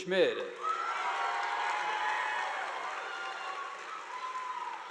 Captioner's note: audience applauding